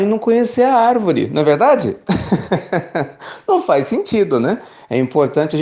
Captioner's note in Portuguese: risos